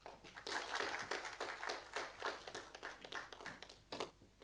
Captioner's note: audience applauding